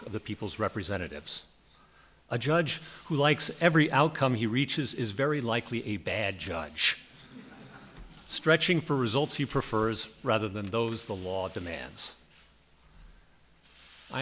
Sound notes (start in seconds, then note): 7.2 laughter